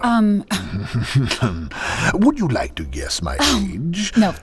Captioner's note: laughing